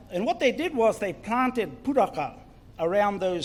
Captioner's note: foreign Language